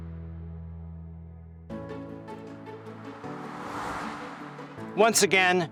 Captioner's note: air whooshes; upbeat music